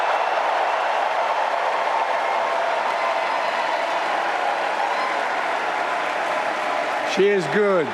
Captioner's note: applause